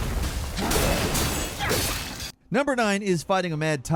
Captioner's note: creature growling